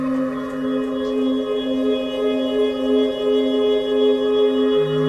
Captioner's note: spooky sounds